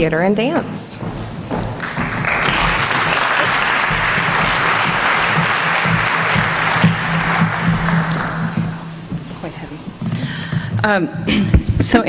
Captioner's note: applause